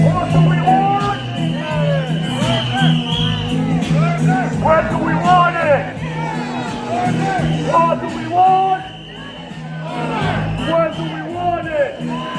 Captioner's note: chant